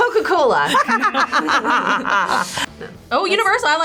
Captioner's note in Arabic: تضحك